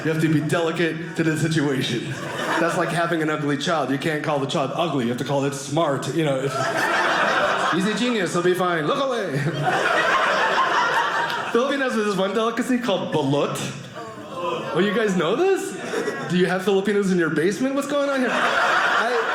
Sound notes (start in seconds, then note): 9.2 audience laughing; 13.6 groaning; 18.0 audience laughing